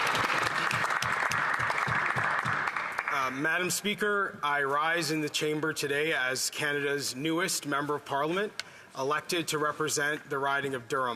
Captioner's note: applause